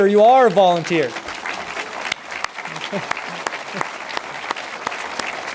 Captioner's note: audience applauds